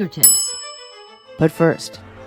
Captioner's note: bell rings